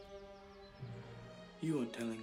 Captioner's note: birds singing